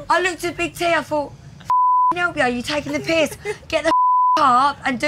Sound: beep

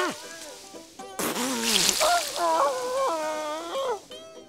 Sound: groaning

